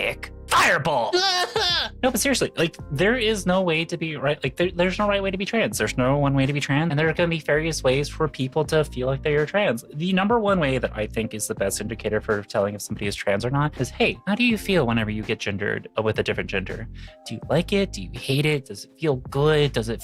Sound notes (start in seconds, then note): 1.1 crying